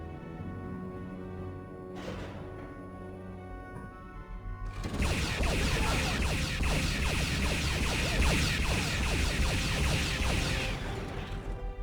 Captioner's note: explosion